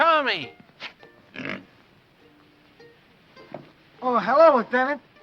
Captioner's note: pig snorts